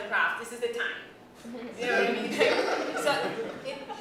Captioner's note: laughter